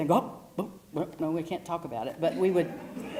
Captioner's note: laugh